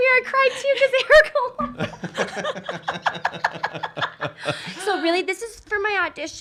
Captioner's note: laughs